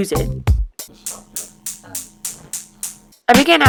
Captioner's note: click click click click click click click click